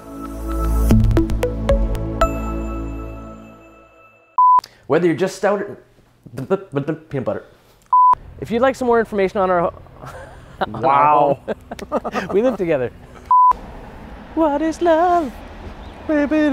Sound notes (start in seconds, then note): 0.0 upbeat music; 4.0 beep; 7.9 beep; 9.9 laughs; 13.3 beep